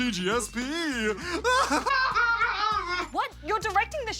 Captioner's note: laughs